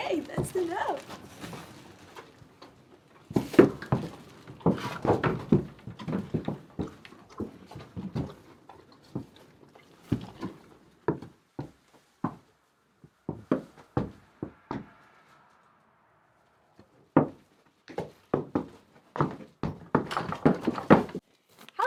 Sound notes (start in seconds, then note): 5.1 feet thudding; 20.3 door clacking